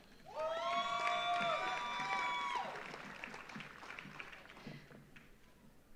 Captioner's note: audience cheers; audience applauds